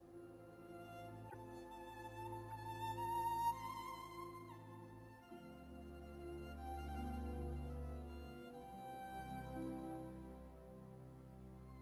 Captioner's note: speaking French